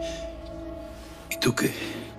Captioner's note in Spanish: Respiración agitada